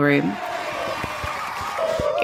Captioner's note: crowd cheering